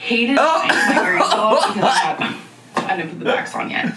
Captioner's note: laughing